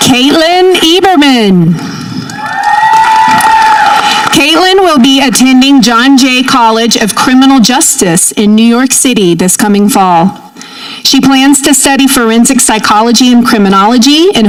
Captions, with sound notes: Kaitlyn Eberman. (audience cheering) Kaitlyn will be attending John Jay College of Criminal Justice in New York City this coming fall. She plans to study forensic psychology and criminology,